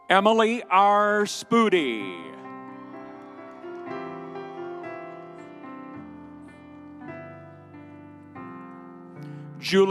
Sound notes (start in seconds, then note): 2.6 audience cheering; 5.7 pensive music continues